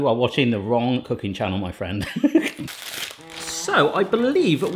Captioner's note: laughs